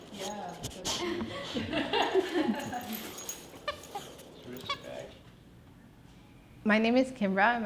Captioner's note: squeaking, laughter